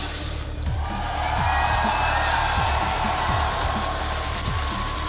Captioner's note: crowd cheering